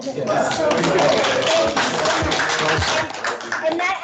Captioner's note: clapping